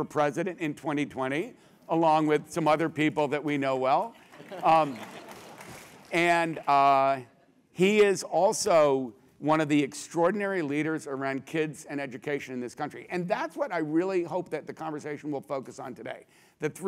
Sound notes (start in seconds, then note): 4.5 laugh